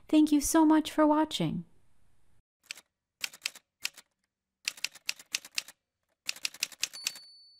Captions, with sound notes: Thank you so much for watching! [Typewriter sounds]